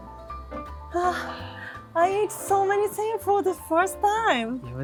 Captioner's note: sighs